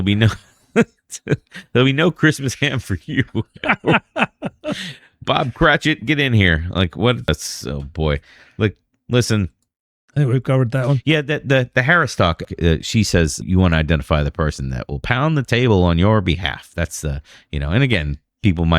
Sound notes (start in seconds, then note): 12.3 uh